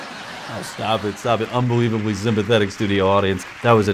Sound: canned laughter; normal voice

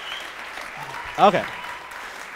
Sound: audience whistling and clapping

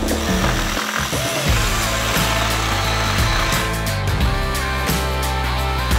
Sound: saw revving; man whooping

